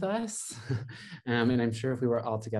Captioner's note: laughs